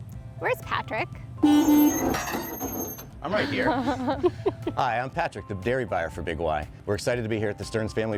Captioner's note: beep Beep